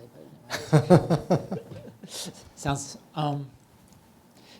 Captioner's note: laughs